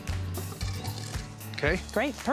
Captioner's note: scraping sound